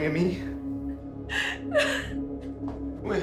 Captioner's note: Whitney sobbing